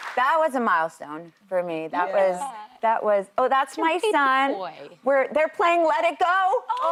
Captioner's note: applause